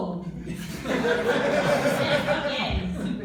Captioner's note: laughter